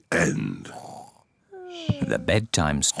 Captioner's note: both snore